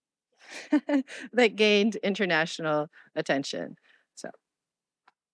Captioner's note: laughing